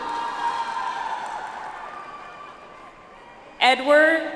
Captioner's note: audience applauds